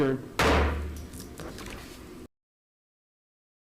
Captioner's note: gavel slamming